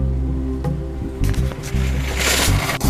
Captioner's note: sound of shopping cart